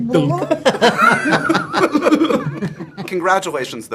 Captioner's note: laughter